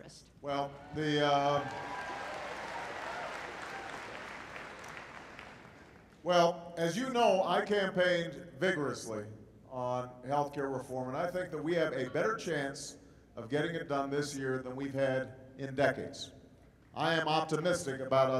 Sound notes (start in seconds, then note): 5.5 applause